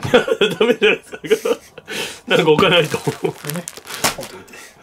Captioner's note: lid opens-Laughter